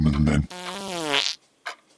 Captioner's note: passing wind